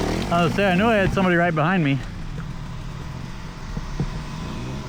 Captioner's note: engine revving